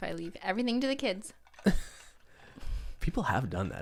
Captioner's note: laughs